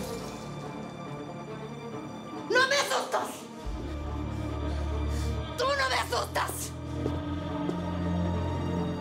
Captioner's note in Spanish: ruido de vidrios al romperlo